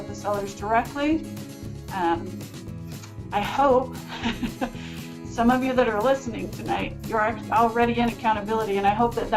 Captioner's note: laughs